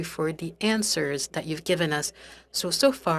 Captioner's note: speaking french